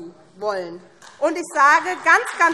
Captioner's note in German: Beifall SPD